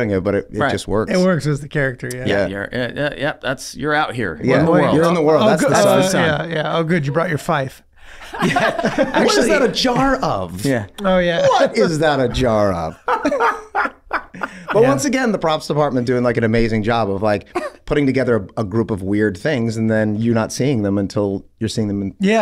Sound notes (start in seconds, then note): 4.4 all chattering; 13.0 Charlie cackles